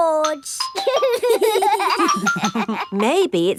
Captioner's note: giggling